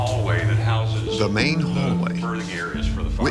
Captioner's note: voiceover